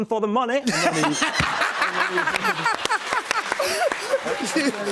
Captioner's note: laughter